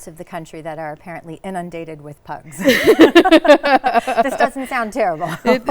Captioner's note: laughs